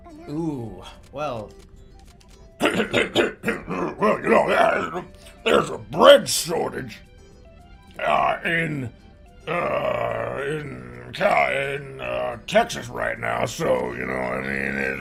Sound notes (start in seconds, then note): 2.6 clears throat and deepens voice